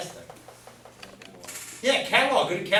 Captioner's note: voiceover